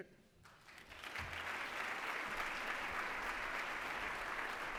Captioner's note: applause